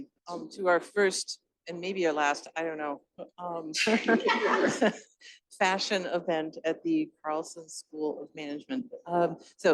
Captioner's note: laughter